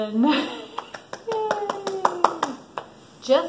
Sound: clapping

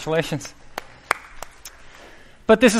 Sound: applause

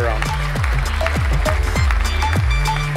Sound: applause

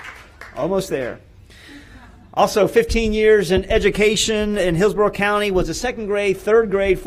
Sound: applause

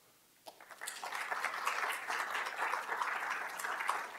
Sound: audience applauding

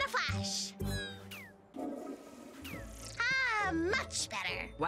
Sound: toilet flushes

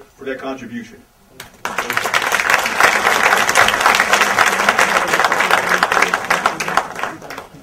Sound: big audience applause

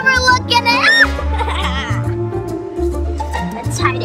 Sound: laughs evilly

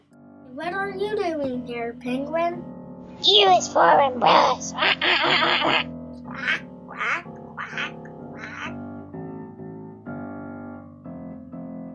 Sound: quacking noises

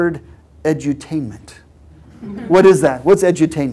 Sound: laugh

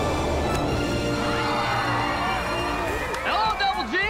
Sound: cheering

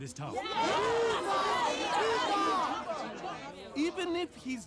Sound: crowd agreeing

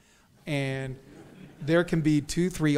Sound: audience chuckles

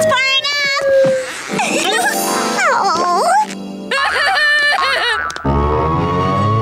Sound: laughing

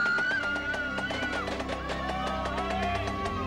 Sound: all cheering

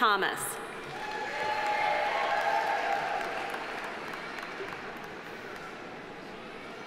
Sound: audience cheering; audience applauding

